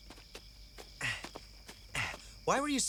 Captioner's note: grunts